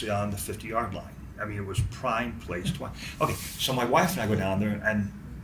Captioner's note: none